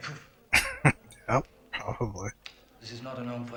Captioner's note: chuckling